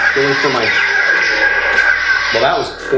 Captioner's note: electronic buzzing